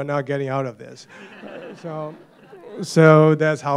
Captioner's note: laughter